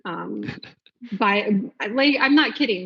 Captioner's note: laughs